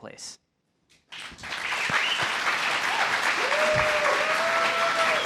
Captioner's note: applause